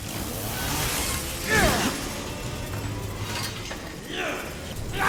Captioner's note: chainsaws whirring; grunting